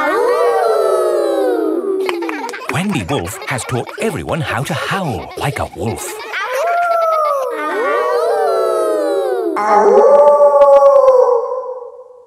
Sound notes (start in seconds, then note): 0.0 howling; 0.0 kids howling; 6.5 howling; 8.1 kids howling; 10.1 wolf howling loudly